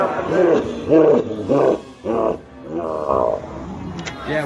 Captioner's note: ominous laughing